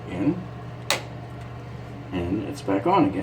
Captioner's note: button snapping